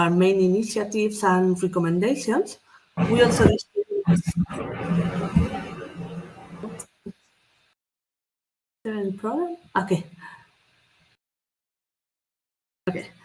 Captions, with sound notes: initiatives and recommendations. We also (AUDIO DISTORTS). Is there any problem? OK.